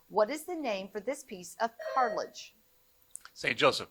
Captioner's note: buzzer buzzing